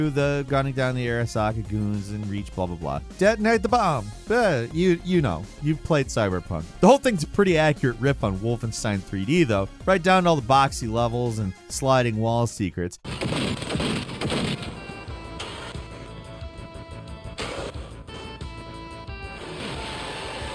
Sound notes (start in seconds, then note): 13.1 character smashes; 16.4 electronic music